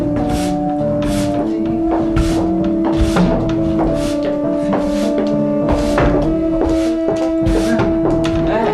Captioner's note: sweeping Sounds